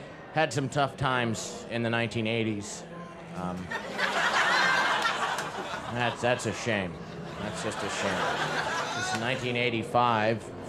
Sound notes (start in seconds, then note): 3.4 crowd laughs